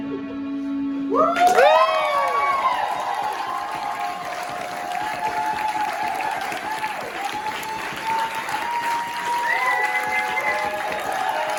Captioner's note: audience cheering